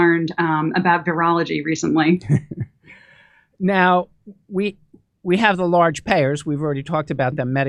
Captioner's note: laughs